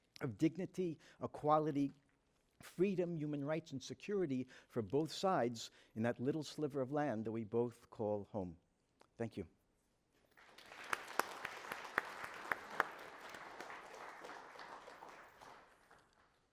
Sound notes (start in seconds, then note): 10.3 audience applauds